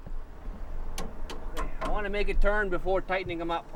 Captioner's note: tapping metal